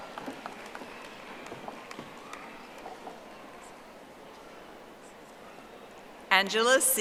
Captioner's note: audience applauding